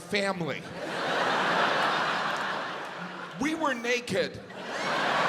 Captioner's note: audience laughs